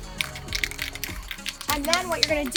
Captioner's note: rattling